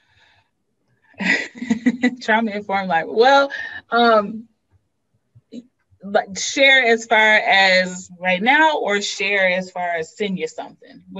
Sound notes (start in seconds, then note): 2.2 laughs